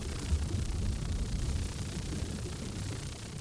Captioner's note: none